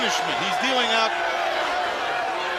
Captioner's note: crowd chatter